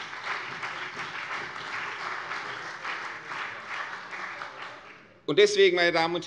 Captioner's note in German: Beifall CDU und BÜNDNIS 90/DIE GRÜNEN